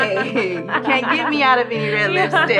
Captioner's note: laughing